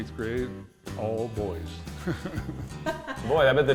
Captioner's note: laugh